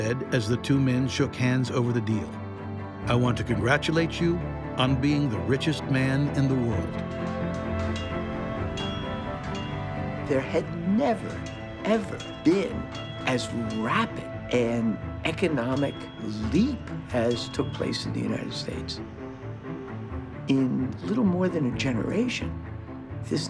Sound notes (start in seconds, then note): 7.8 train bell ringing